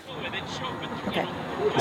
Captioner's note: man ranting